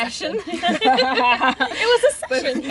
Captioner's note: laughter